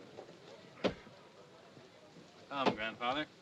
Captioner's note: axe striking wood